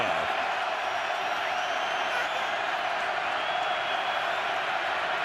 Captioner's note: crowd cheering